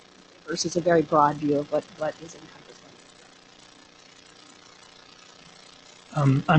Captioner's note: recording fading out